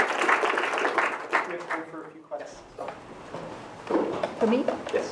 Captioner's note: applause; voiceover